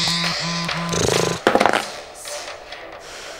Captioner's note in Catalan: Esbufega